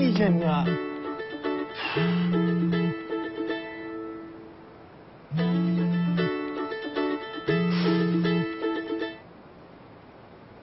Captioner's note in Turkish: Telefon çalıyor